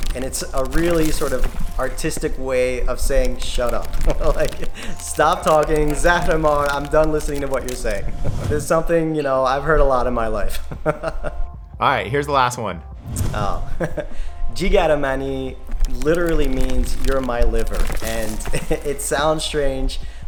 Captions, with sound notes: and it's a really sort of artistic way of saying, shut up, stop talking, zahre mar I'm done listening to what you're saying. This is something, you know, I've heard a lot in my life (laughs). - All right, here's the last one. - Oh, jeegare man-e literally means you're my liver, and it sounds strange,